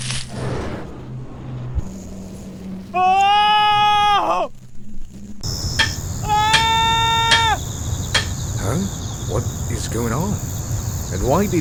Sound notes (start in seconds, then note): 2.9 screaming; 5.5 JackONado STILL screaming